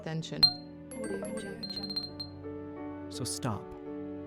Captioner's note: phones dinging